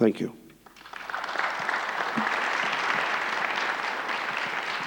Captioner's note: audience applauds